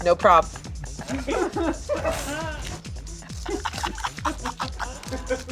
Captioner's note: crew laughing; laughing